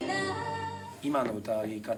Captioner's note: speaking in foreign language